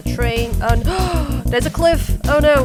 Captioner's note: gasp